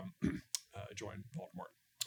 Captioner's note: clears throat